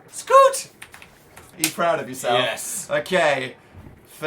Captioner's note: claps